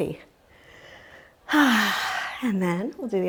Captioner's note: sighs